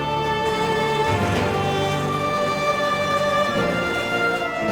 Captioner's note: dramatic music; mechanical whirring